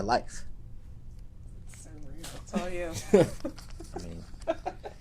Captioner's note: laughter